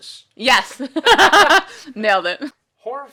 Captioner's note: laughs